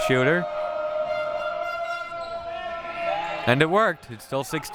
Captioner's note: audience chanting; horn blaring